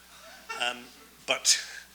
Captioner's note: audience laughs